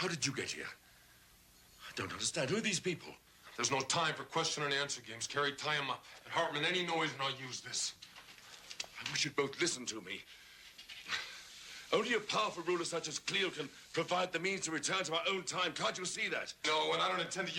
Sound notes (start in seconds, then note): none